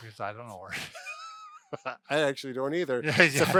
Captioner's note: both laugh